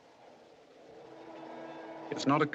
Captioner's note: wind Blowing